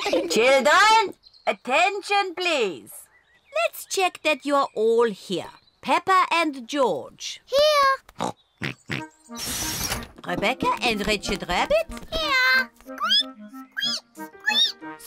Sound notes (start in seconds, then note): 8.6 both snort; 13.7 both squeak